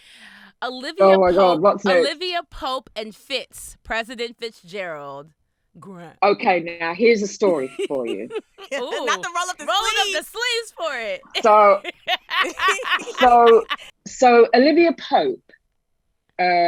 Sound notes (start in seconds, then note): 12.3 laughing